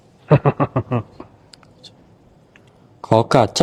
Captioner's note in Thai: เสียงหัวเราะ